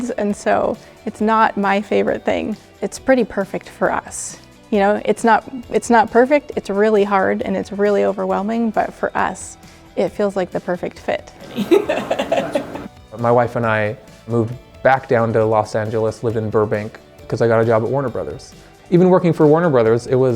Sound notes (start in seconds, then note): 11.4 laughing